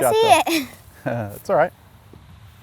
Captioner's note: laughs